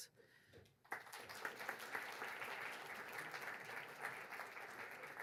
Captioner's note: audience applauds